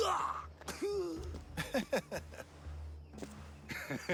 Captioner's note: laughs; laughs